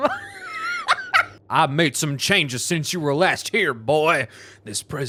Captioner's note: laughing; southern accent